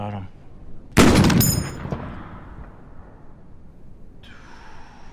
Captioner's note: rifle firing; Sanborn exhaling